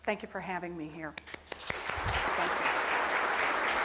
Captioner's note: clapping